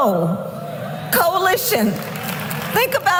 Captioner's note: applause